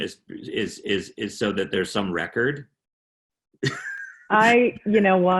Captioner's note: chuckling